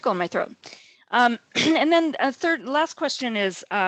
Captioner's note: clears throat